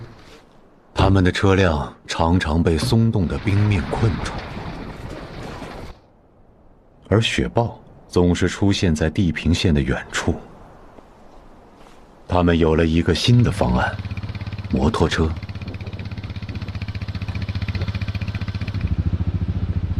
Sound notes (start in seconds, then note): 15.6 putt putt putt of a motorcycle